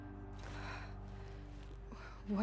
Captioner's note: gasp